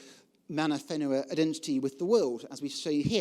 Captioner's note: speaking foreign language